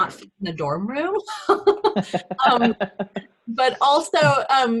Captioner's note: laughs